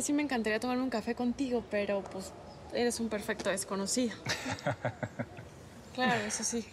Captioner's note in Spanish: él ríe